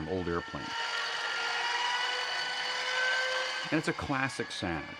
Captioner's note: whirring